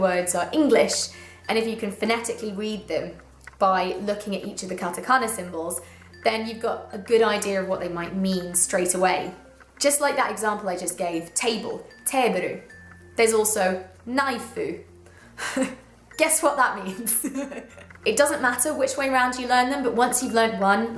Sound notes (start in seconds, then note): 16.9 laughter